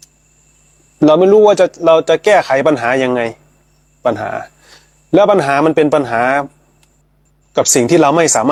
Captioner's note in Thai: เสียงสูดหายใจ